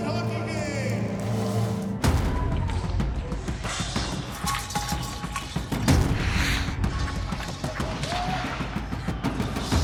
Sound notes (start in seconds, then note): 2.0 dramatic music; 4.3 puck rattling; 7.3 skates grinding, whooping